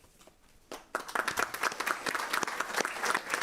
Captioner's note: applause